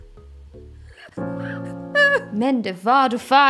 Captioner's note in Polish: źle udawany płacz